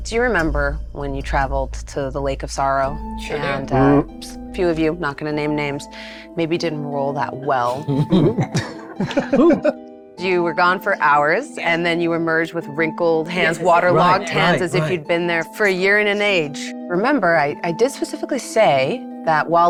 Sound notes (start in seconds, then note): 3.4 grunts; 7.6 giggles